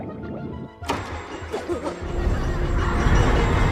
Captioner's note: children laughing; stammers